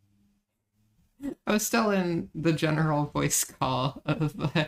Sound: laughing

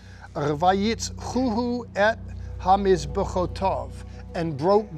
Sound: speaking in Hebrew

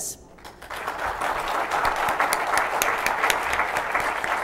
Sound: applause

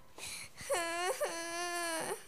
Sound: cries

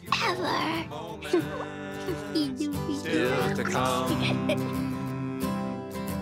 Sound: babbling

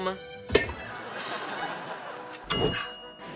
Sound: sighing

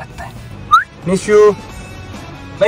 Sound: whistles

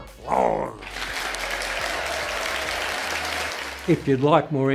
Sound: audience applauds

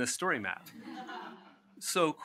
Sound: laughs

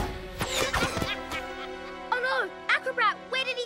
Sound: distant laughter

